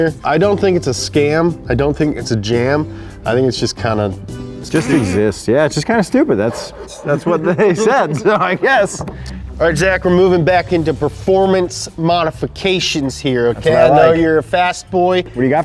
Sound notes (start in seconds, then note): 8.7 laughing